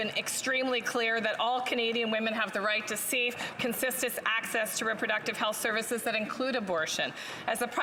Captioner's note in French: voix de l'interprète